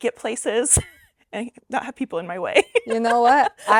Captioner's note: laughs